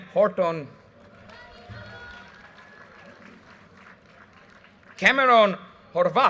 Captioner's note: audience cheers and applause